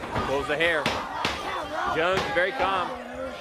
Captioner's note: crowd cheering